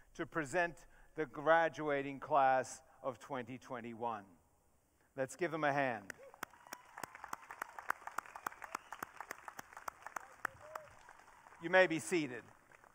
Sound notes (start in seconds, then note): 6.2 audience cheering